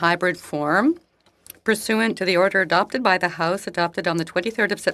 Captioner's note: speaking French